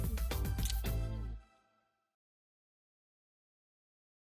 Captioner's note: lips smacking